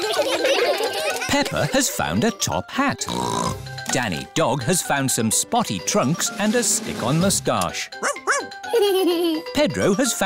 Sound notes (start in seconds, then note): 0.0 all giggle; 3.0 snorts; 8.6 giggles